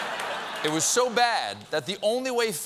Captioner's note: laughter